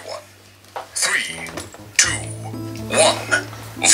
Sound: dramatic Voice

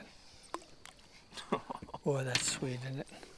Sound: laughter

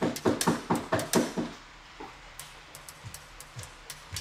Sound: knocking at door

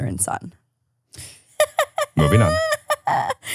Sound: laughs

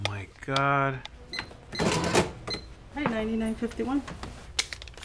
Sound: cash register beeping and whirring

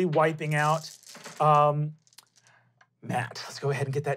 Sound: rolling dice

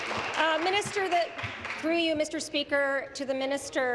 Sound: applause

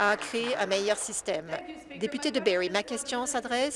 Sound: applause

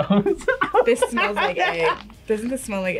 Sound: laughs

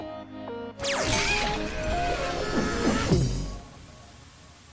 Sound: techno music; electricity zapping

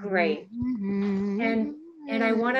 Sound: humming

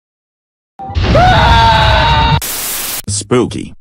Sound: scream

